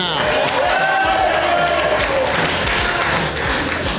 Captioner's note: crowd cheering